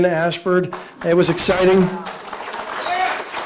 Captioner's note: audience applauding